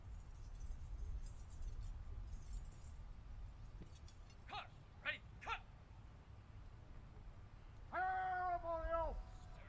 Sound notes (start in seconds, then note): 1.7 soldiers shouting commands